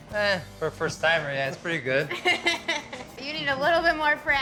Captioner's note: chuckling